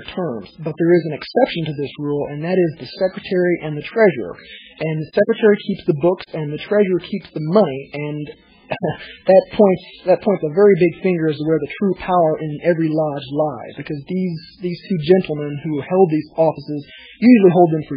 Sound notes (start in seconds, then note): 8.8 laughs